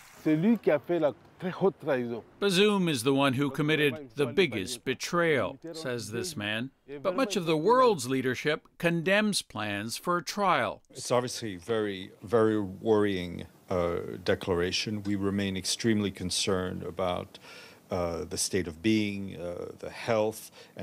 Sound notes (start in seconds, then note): 2.1 speaking alternate language